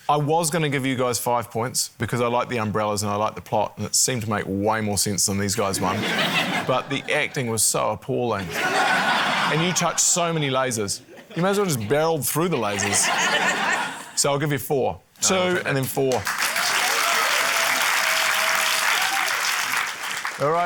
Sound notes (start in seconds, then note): 8.4 laughter; 12.6 laughter; 18.9 cheering, applause